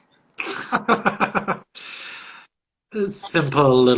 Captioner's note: laughs